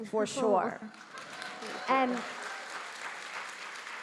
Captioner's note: audience clapping